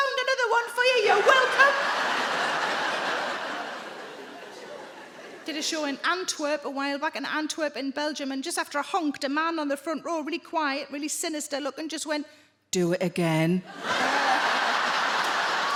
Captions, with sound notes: "Found another one for you, you're welcome!" I did a show in Antwerp a while back in Antwerp in Belgium and just after I honked, a man on the front row really quiet, really sinister-looking, just went... [IN A DEEP VOICE]: "Do it again". Ehhh.